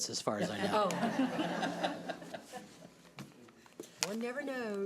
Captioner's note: audience laughing